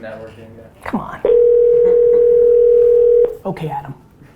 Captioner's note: phone ringing